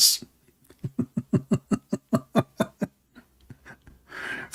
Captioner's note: Ketawa